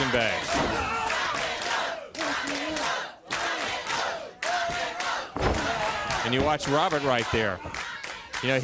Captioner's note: crowd cheering